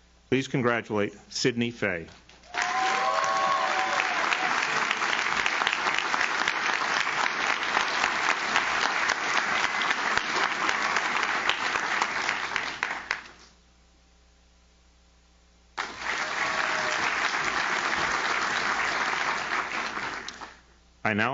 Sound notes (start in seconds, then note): 2.4 audience cheers; 2.8 audience claps; 15.7 audience claps; 15.8 audience cheers